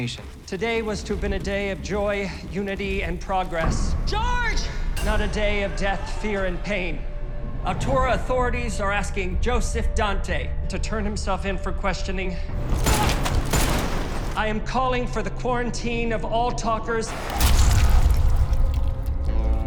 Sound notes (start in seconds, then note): 12.6 gunshots; 17.1 splat